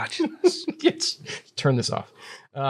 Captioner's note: laughs